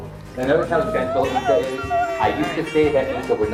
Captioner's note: presenter faintly speaking